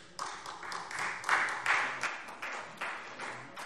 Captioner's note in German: Beifall